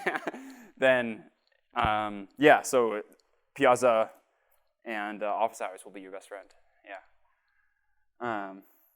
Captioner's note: laughter